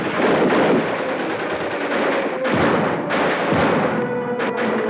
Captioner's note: gunfire blasts